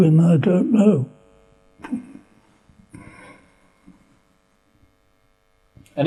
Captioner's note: laughs